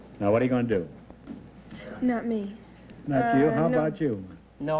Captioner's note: none